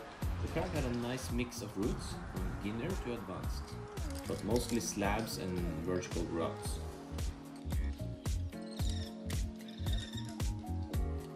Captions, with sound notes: The crag had a nice mix of routes from beginner to advanced but mostly slabs and vertical routes. [bird chirping]